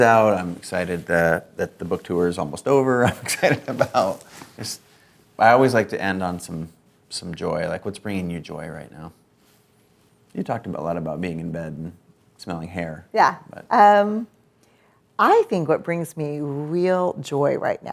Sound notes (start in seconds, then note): 3.1 laughs